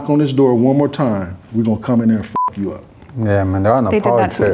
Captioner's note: beep